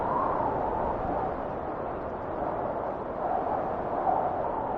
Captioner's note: wind whistling continues